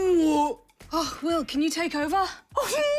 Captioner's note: breathlessly